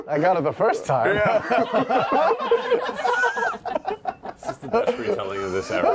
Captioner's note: laughter